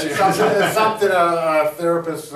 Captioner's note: laughing